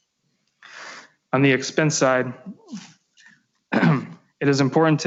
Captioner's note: clears throat